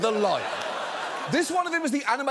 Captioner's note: audience laughs